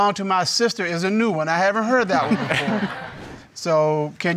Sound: audience laughing

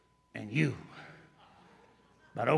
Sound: laughter

